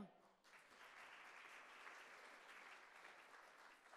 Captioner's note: audience applauding